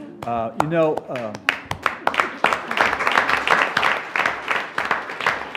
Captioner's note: attendees applauding